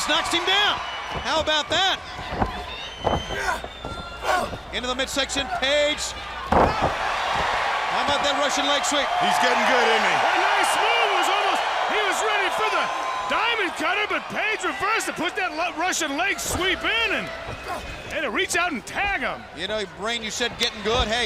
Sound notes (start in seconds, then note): 5.4 crowd cheering